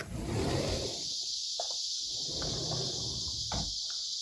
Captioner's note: cicadas chirping